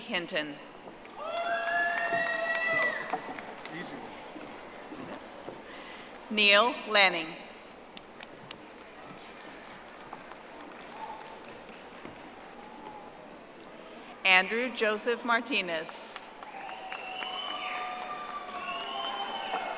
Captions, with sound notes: Aisha C. Hinton. (audience applauding) Neil Lanning. (audience applauding) Andrew Joseph Martinez.